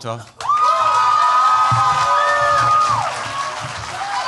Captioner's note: cheers, applause